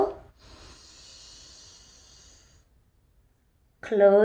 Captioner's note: inhales